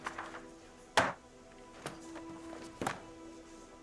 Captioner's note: slams table